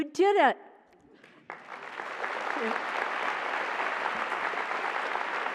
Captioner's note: applause